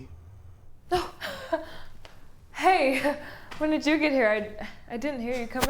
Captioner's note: chuckles